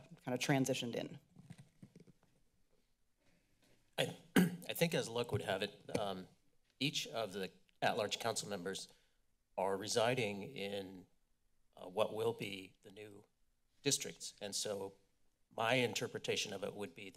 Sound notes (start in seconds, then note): 4.3 clears throat